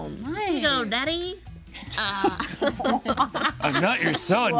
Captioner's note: group laughing